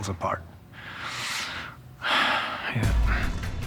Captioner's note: sighs deeply